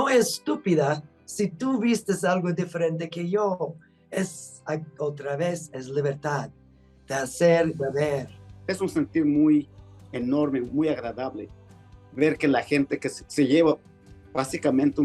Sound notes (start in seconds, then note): 9.3 speaking Spanish